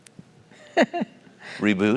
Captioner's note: laugh